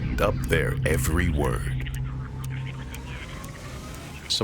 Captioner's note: suspenseful music; people chattering